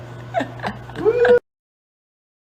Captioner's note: laughs